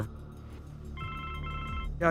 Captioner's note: phone rings